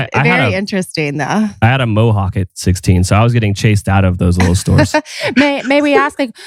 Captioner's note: laughs